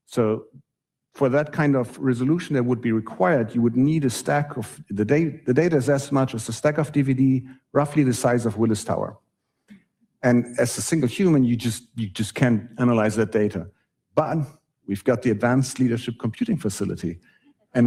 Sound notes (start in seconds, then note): none